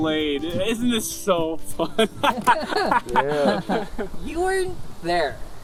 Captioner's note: laughs; sledge laughs awkwardly